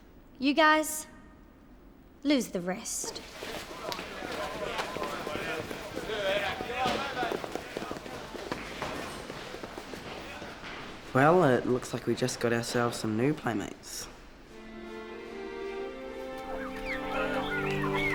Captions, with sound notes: You guys. Lose the rest. (chattering) - Well, it looks like we just got ourselves some new playmates. (gentle music)